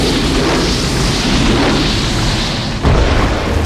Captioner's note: big Explosion